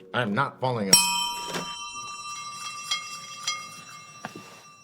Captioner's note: glass ringing